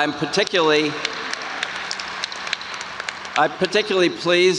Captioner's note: audience applauds